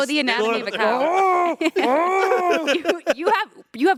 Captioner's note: Anthony laughing; Ian mooing